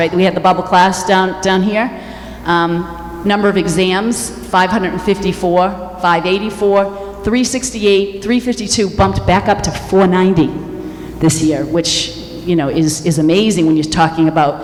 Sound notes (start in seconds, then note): none